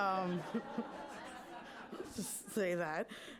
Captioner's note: laughing